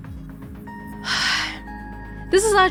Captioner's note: exhales